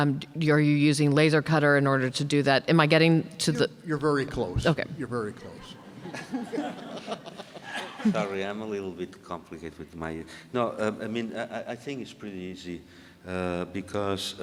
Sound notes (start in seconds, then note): 3.6 voiceover; 5.9 audience laughing